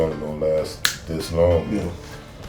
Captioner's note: snaps fingers